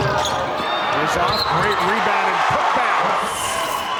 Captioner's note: audience cheers